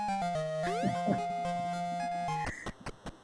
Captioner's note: chuckles